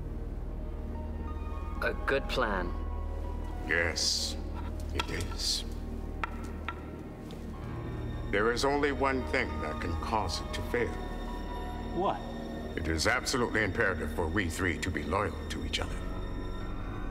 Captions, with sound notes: (somber orchestral music) - A good plan. - Yes, it is. (wood clacking) There is only one thing that could cause it to fail. - What? - It is absolutely imperative for we three to be loyal to each other.